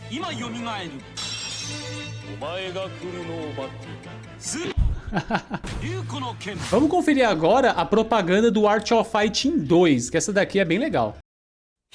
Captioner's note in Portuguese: risadas